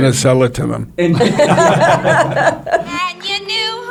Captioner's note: laughing